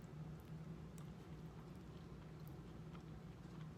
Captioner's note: chewing